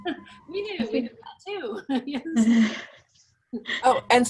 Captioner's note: laughs